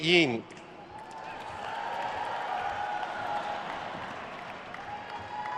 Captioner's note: attendees cheering and applauding